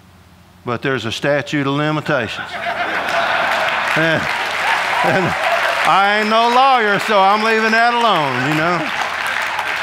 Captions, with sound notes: but there's a statute of limitations. (audience laughing) I ain't no lawyer so I'm leaving that alone, you know.